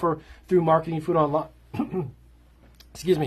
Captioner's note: clears throat